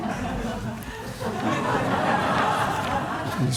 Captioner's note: laughter